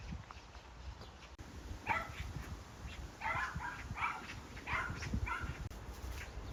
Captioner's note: the lively barking of nearby farm dogs